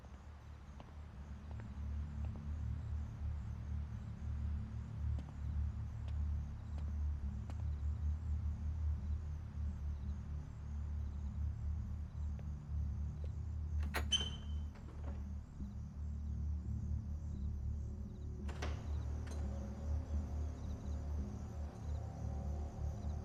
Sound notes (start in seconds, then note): 0.3 footsteps tapping; 4.7 soft suspenseful music; 13.8 door creaks; 19.7 soft suspenseful music